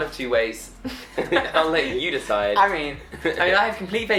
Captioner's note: laughing